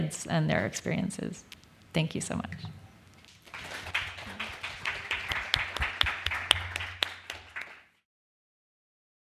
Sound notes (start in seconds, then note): 3.3 applause